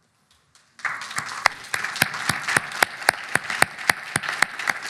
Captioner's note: audience applauding